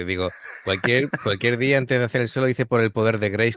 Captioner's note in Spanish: risas